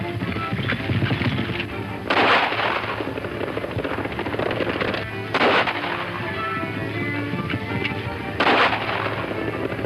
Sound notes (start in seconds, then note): 2.0 gun fires; 8.4 gun fires